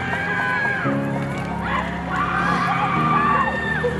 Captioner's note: audience cheering